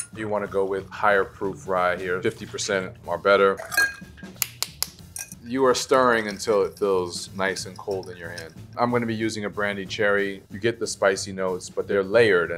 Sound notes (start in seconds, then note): 3.6 ice clinking; 3.6 spoon tapping